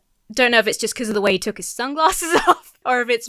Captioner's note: laughs